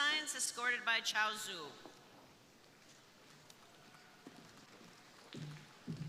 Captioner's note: crowd applauding